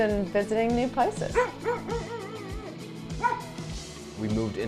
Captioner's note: dog barking